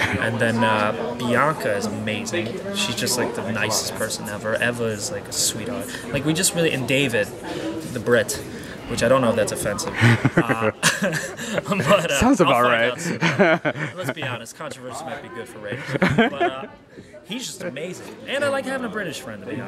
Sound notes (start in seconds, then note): 0.2 laugh; 9.9 laugh